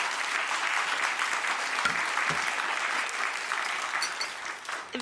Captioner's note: audience clapping